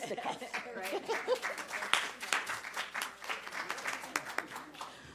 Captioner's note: applause